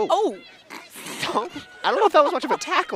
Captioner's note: chuckles